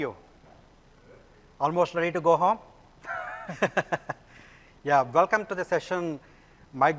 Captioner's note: laughing